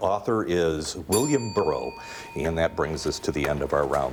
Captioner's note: bell rings